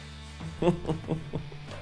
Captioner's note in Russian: Смеются